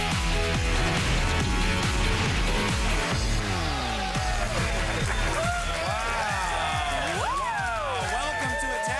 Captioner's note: applause